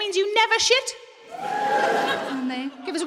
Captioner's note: a few people whoop